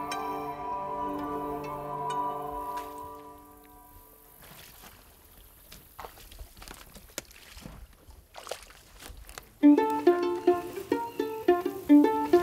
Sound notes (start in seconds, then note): 6.4 light water splashing; 9.6 light music